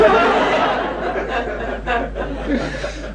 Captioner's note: laughter